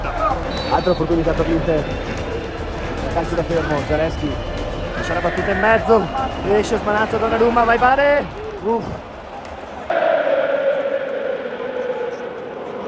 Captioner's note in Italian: Applauso